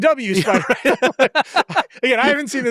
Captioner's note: both laughing